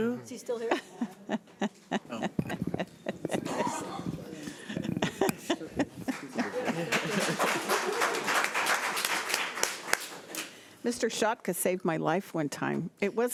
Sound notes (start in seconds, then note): 6.0 audience applauds